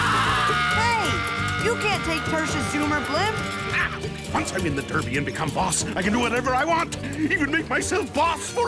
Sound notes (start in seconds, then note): 3.6 cackles